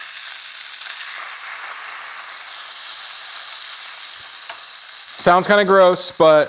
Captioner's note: chicken breast sizzling